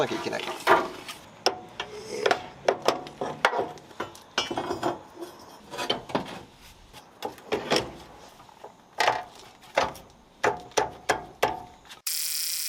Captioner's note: working sound